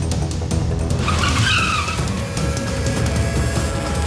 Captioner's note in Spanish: Frenazo